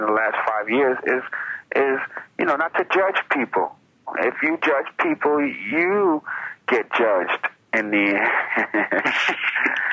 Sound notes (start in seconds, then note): 8.1 laughing